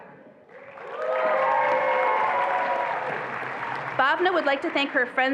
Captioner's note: attendees applauding and cheering